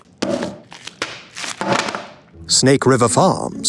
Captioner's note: plastic crinkling